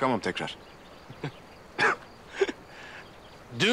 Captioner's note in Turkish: Gülüyor